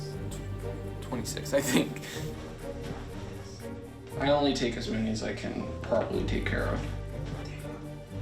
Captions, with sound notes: 26, I think. (laughs) I only take as many as I can properly take care of.